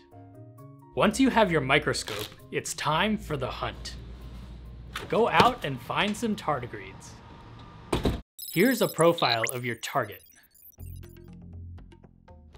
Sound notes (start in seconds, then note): 8.0 door thud; 8.4 glitchy sounds